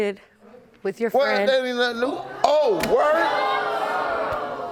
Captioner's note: audience gasping